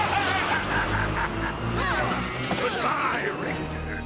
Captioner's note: laughing